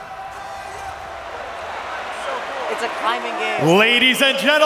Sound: crowd cheering

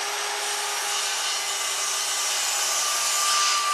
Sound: loud whirring

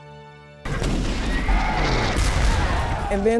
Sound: cannons firing

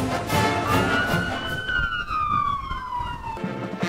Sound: police sirens; marching band music

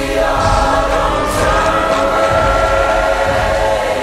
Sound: roars

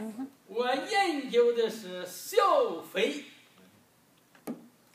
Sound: speaking foreign language

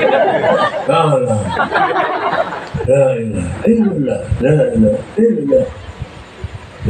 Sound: laughs

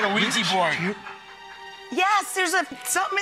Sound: audience laughing

